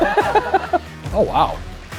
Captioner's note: laughs